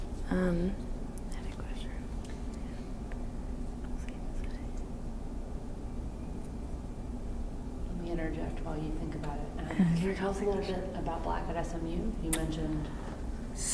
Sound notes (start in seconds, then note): 1.9 whispers